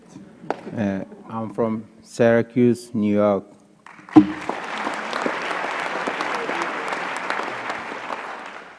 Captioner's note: applause